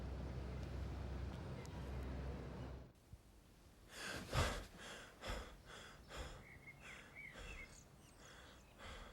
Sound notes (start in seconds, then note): 4.1 Will gasping